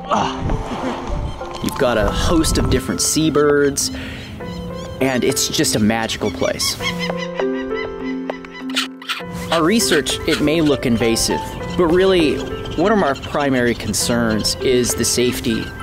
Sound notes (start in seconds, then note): 0.1 grunts; 1.5 voiceover